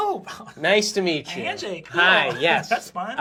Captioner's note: laughs